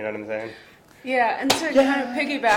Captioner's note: laughing